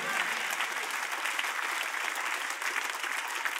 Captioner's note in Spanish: Aplausos